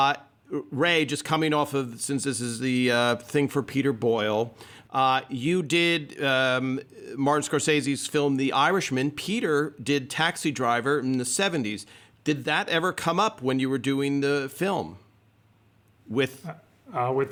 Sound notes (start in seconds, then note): none